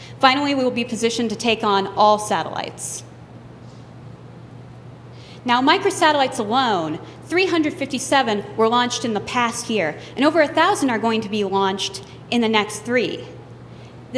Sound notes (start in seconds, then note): none